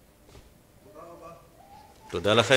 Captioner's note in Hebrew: תגובה מהקהל